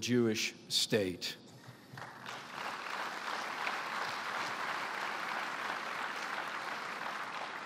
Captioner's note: applause